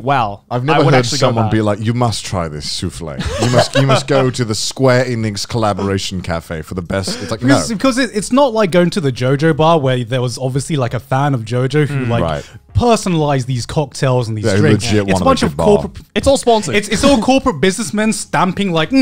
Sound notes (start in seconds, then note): 3.2 laughing